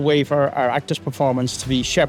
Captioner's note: none